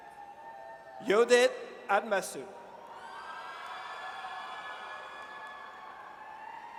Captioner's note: audience cheers; audience cheers